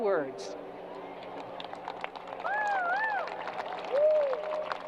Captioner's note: crowd applause